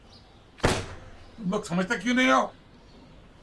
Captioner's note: thud